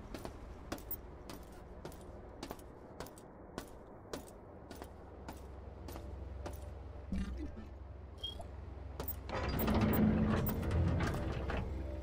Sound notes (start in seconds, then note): 0.0 footsteps; 5.7 footsteps